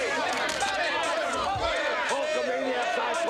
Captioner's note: crowd clamoring